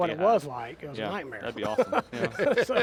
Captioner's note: laughs